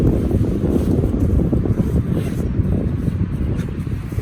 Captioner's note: zip noise; zipper zips